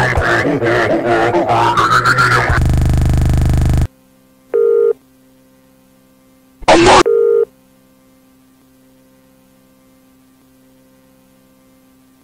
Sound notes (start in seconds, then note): 4.5 phone rings or something idk